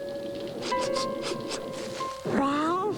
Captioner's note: sniff sniff